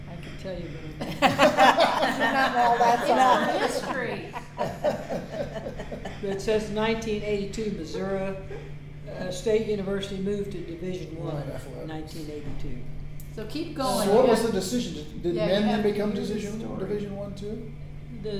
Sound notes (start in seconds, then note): 1.0 all laughing